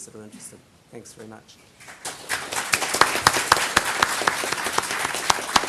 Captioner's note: audience applause